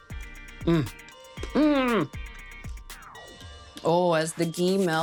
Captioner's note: moans